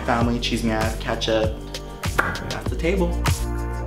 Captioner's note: speaking in foreign language